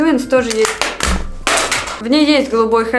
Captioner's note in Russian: звук падения